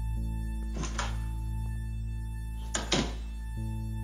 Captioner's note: door opens and closes